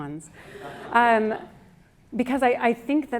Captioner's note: audience laughs